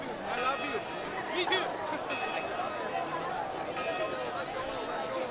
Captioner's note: chatter